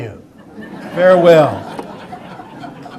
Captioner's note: audience laughter